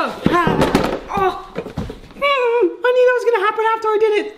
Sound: squeals in pain

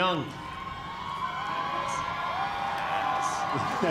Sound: cheers and applause; laughs

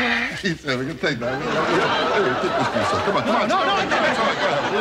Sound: laughing

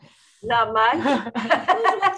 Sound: laughter

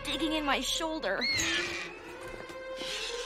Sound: screeching

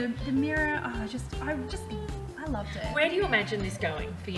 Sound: sighs

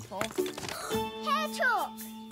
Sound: gasps

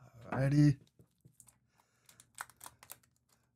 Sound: tapping

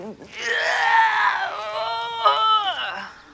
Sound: grunting

